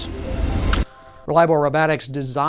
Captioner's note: whooshing air